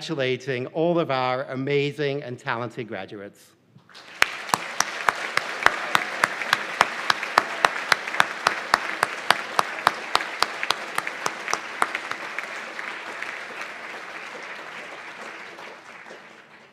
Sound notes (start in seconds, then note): 3.9 applause